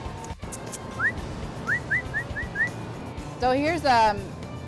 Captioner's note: whistling